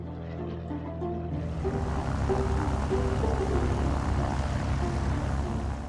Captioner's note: plane landing